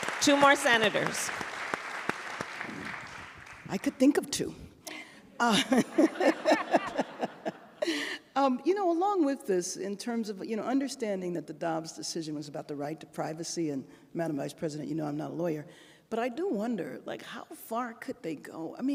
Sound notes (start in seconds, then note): 0.0 applause; 5.4 laughter